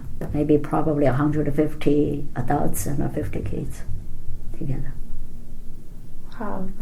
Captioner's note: quietly